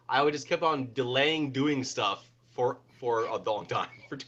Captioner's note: chuckles